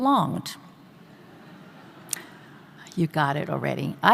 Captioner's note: audience laughing